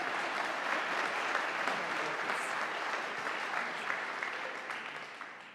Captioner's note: audience applauding